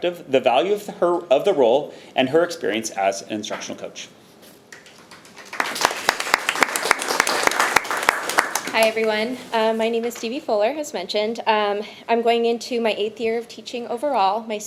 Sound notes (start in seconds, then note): 4.7 people clapping